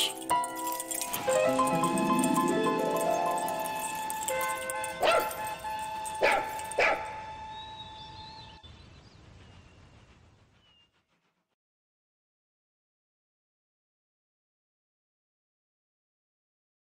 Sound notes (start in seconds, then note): 0.3 jingle-jangle of dog tags; 3.4 train whistle; 6.2 dog barking